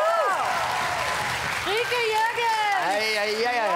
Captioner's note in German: Jubel und Applaus